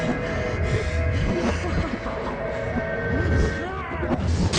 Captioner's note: Alex laughs